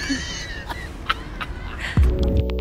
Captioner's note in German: lacht